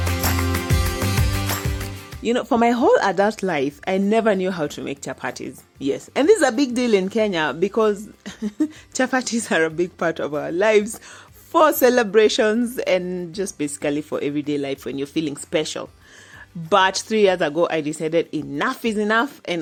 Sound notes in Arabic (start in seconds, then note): 8.5 يضحك